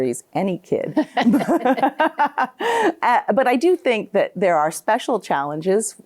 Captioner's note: both laughing